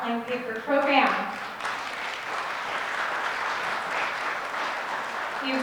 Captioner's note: audience clapping